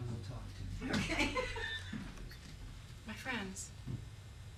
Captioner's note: laughs